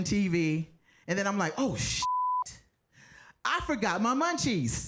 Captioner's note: beep